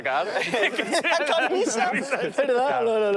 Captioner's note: laughter